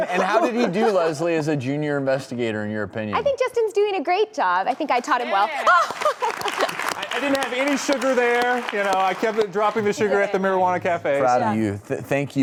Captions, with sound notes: And how did he do Leslie as a junior investigator in your opinion? I think that Justin's doing a great job. I think I taught him well. (laughs) (crowd cheers) I didn't have any sugar there. I kept dropping the sugar at the marijuana cafe. Proud of you.